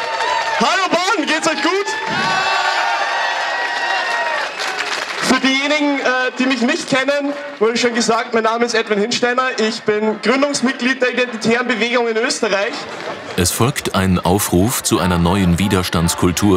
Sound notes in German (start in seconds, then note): 1.3 Ja-Rufe, Jubel